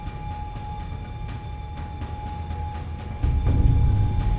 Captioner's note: watch ticking